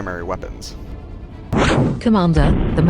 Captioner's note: zap